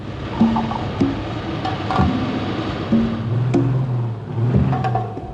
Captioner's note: tires spinning